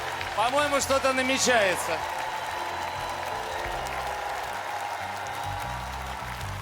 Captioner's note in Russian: аплодисменты